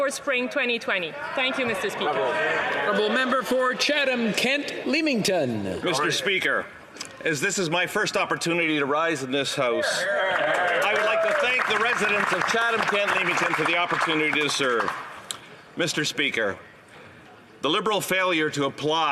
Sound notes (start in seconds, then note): 13.7 some Applause